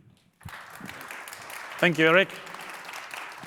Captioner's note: audience applauds